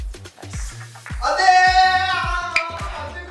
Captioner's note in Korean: 절규